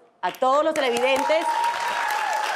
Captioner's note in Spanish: Ovación